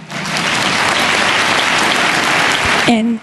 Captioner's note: applause